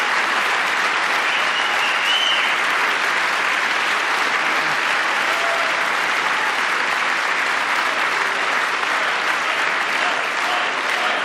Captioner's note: applause